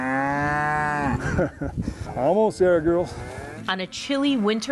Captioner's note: chuckles